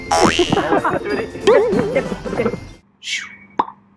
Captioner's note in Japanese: ビヨ～ン